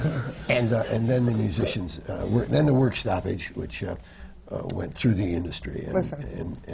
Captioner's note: laughter